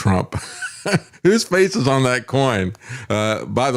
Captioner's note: laughs